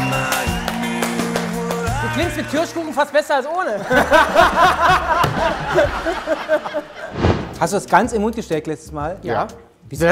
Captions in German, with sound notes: (Dynamische Musik) Du klingst mit Kirschkuchen fast besser als ohne. (Lachen) Hast du das ganz in den Mund gesteckt letztes Mal?